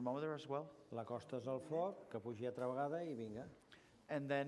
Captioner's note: non-english speech